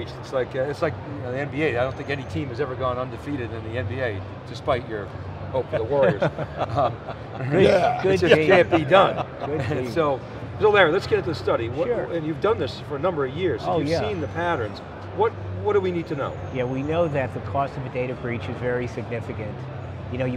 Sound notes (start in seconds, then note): 6.0 laughing